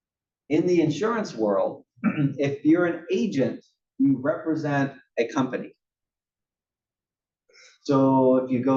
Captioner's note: cough